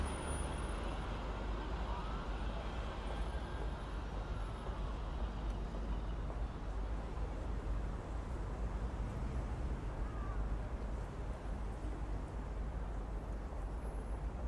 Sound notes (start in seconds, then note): 5.0 traffic noise